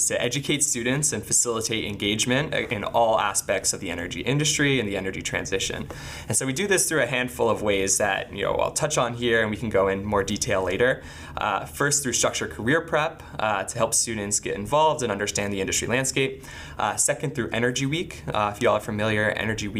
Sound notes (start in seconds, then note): none